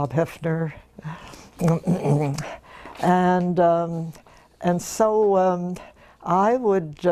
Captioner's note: laugh; cough